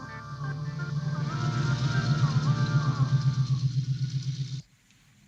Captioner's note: truck engine rumbling